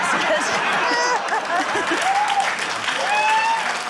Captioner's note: laughter, cheering, applause